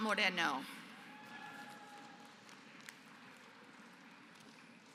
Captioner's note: applause